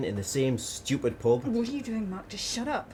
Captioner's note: whispering